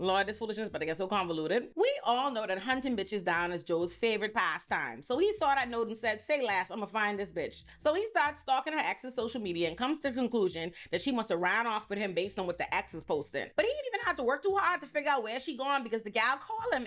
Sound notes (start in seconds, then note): none